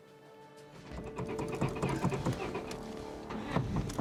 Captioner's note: engine cranking